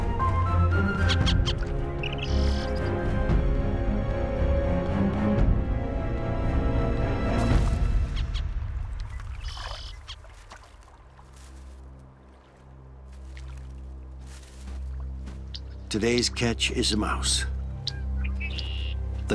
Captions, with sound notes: [CHIRPING] Today's catch is a mouse.